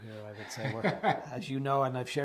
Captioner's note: laughs